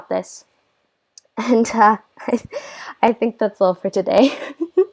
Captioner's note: laugh